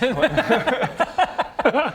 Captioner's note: any-excuse laughter